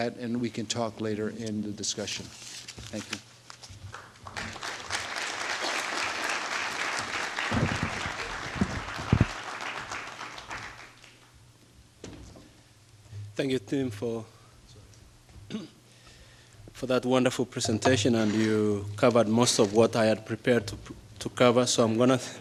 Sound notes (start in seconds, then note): 3.9 applause; 13.6 with strong accent